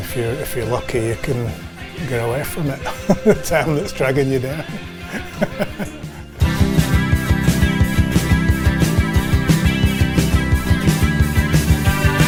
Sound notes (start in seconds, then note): 2.7 laughs; 5.5 upbeat rock music